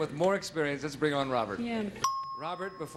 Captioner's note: ding